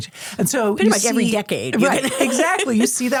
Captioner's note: laughs